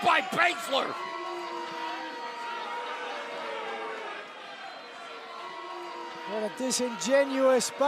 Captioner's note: crowd chatter